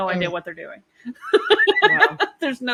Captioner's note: laughs